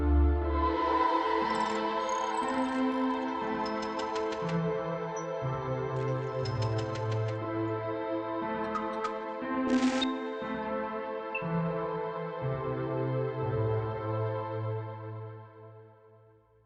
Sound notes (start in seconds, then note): 1.2 eerie synthwave continuing; 1.2 screen beeping and buzzing